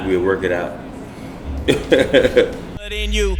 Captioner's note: laughs